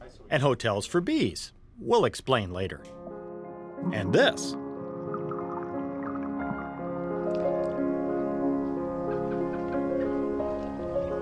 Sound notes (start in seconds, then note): 3.8 water bubbling; 5.0 gentle piano music